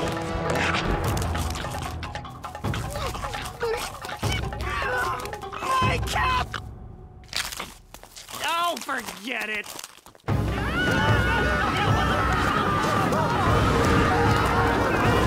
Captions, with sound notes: [grumbling] My caba- Oh, forget it. [screaming]